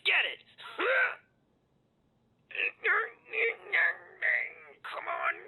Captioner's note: groaning